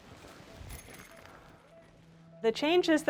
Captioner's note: metal clanking